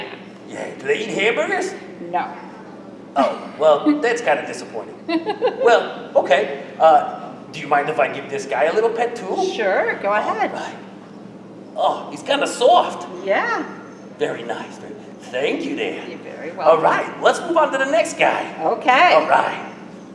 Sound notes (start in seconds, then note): 5.0 laughs